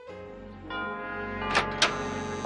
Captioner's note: doorbell ringing